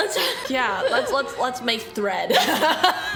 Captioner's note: laughs